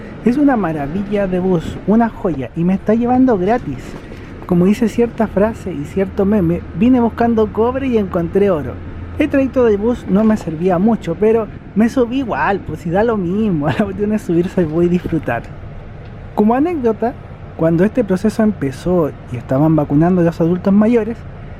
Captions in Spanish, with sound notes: es una maravilla de bus, una joya y me está llevando gratis como dice cierta frase y cierto meme: vine buscando cobre y encontré oro el trayecto del bus no me servía mucho, pero me subí da lo mismo (risas), la cosa es disfrutar como anécdota, cuando este proceso empezó y estaban vacunando a los adultos mayores